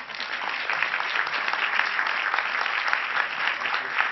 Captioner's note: crowd applauding